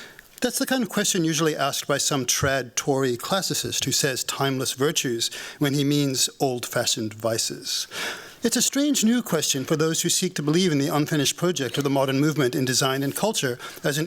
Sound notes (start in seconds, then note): none